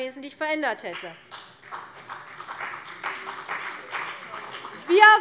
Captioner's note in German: Vereinzelter Beifall CDU und BÜNDNIS 90/DIE GRÜNEN